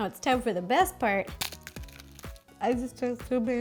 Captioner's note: crunch